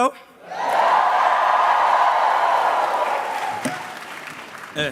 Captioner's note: cheering